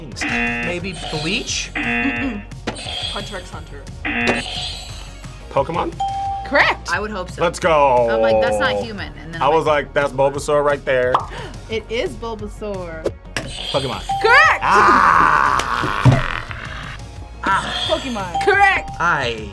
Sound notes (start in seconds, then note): 0.2 buzzer; 0.2 buzzer rings; 1.7 buzzer; 1.7 buzzer rings; 2.7 buzzer; 6.0 bell rings; 6.0 buzzer rings; 11.8 gasps; 13.6 bell rings; 13.6 buzzer rings; 17.6 buzzer rings